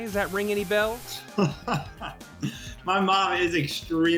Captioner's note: laughing